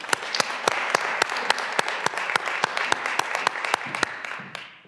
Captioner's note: graduands applauding